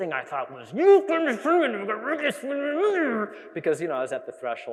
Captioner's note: imitates cursing